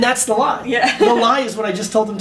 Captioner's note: laughs